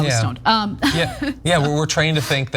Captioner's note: laugh